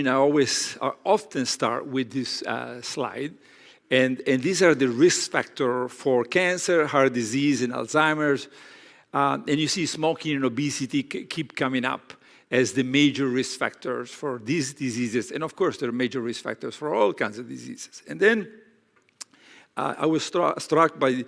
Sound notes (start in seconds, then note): none